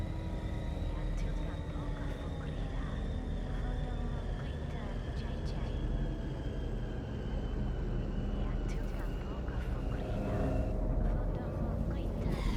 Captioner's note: ominous music; speaking foreign language; ominous music